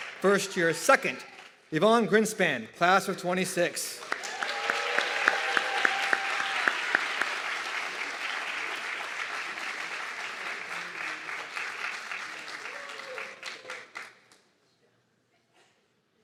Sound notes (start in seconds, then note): 4.5 audience clapping and cheering